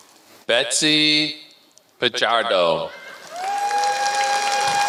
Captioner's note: applause